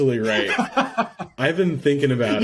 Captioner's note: laughs